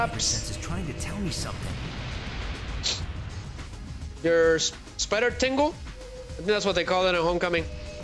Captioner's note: snorts